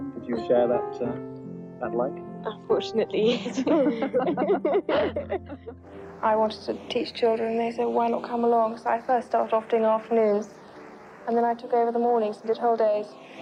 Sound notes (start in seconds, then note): 3.2 giggles